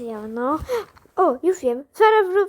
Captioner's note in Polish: Gasp